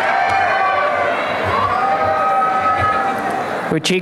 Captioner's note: applause and cheering